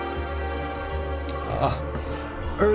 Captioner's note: lamentation